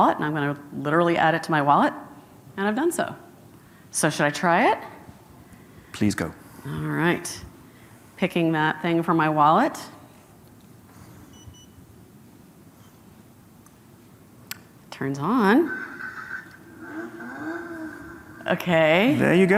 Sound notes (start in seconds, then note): 11.3 car alarm beeping; 16.9 car engine revving